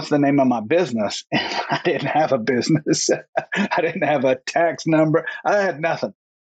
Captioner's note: laughs